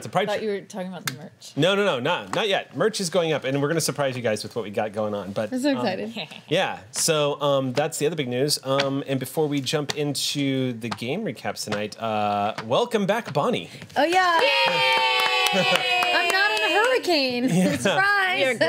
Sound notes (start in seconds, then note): 14.0 group cheers